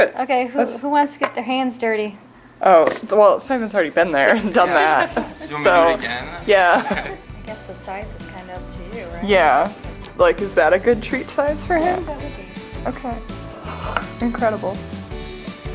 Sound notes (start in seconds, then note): 4.2 laughing